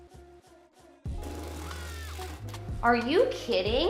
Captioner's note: driller whirring